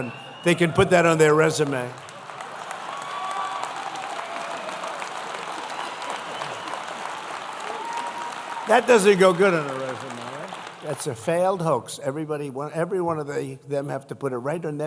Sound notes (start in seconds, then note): 5.0 applause